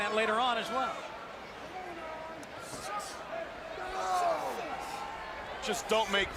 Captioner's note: crowd chatter